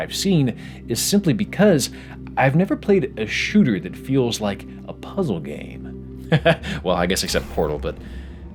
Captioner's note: laughing